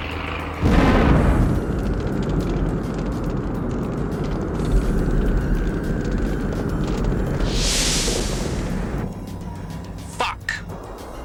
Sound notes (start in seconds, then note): 0.8 explosions rumbling; 2.7 fire crackling